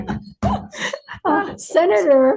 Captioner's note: laughing